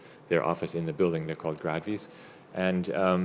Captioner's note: speaking German